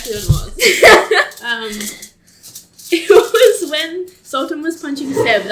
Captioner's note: laughs